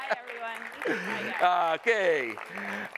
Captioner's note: applause